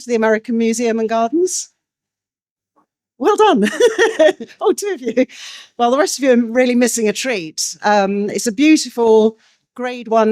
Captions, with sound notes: the American Museum and Gardens? Well done. (Laughs) Oh, two of you. Well, the rest of you are really missing a treat. It's a beautiful grade one